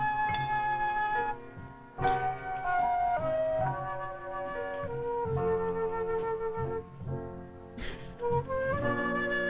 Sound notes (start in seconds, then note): 1.9 chuckles; 7.8 chuckles